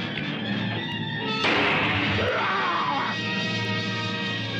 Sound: gunshot; groan

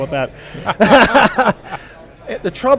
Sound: laughing

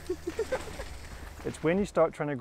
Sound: giggling

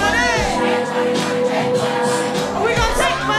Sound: crowd

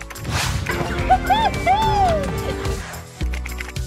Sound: exclaims

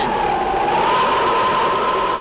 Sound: thunder

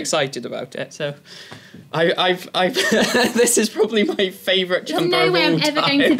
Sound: laugh; laugh

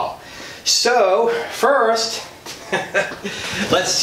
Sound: laughs

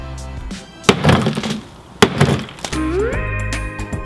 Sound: hammer bangs; tropical music

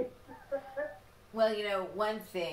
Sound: chuckles

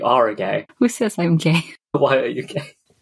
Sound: laughing

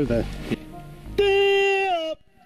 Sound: shouts

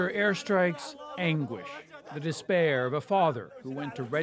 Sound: speaking alternate language

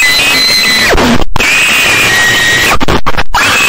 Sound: demonic screeching

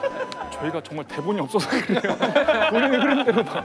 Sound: haha

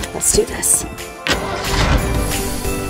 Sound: engine turns over; upbeat festive music

